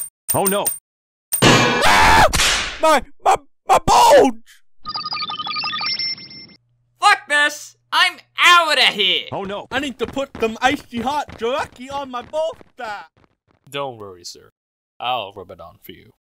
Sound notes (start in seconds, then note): 1.7 screams